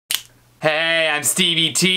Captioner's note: snap